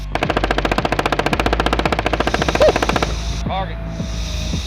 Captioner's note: gun shoots